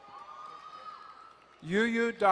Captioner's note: crowd cheering and applauding